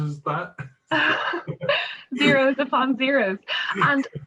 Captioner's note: both chuckle